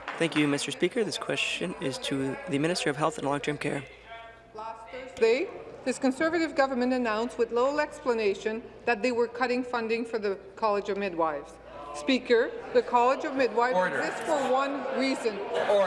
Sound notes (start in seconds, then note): 1.7 applause; 4.3 speaking in french